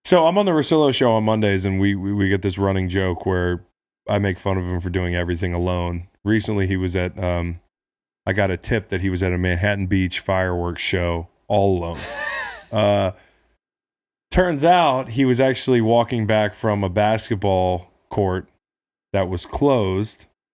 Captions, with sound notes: So I'm on the Russillo Show on Mondays and we get this running joke where I make fun of him doing everything alone. Recently he was at ... I got a tip that he was at a Manhattan beach fireworks show, all alone. (laughs) Turns out, he was actually walking back from a basketball court, that was closed